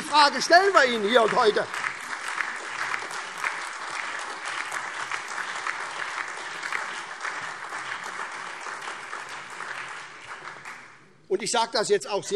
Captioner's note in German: Beifall SPD, Freie Demokraten, DIE LINKE und vereinzelt AfD